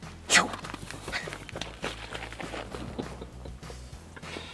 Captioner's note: cow hooves clopping; chuckles